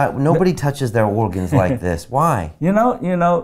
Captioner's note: chuckling